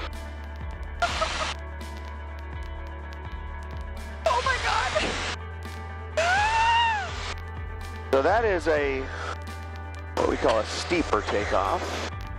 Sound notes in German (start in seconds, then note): 0.7 Lacht und Quietschen; 6.2 Kleiner Schrei